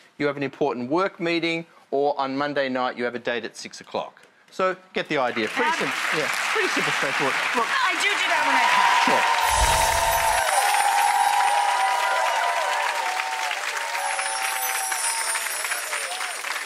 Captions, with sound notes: you have an important work meeting, or on Monday night you have a date at 6:00. So, get the idea, pretty simple. (Audience applauds) Yep. Pretty simple, straightforward. I do do that when I pack. (audience cheers)